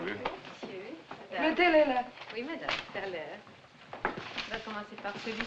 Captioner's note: French